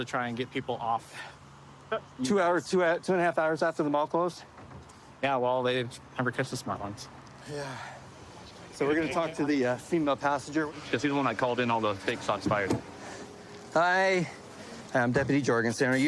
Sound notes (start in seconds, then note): none